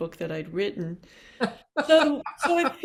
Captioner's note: laughing